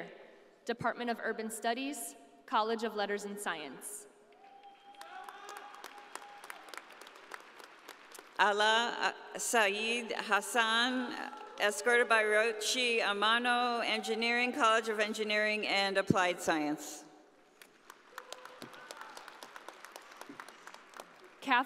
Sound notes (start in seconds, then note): 4.4 audience applauding; 17.5 audience applauding